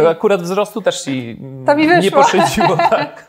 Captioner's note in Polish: śmiech